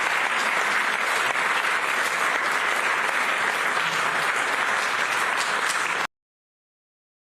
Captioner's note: applause